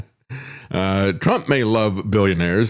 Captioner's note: laughs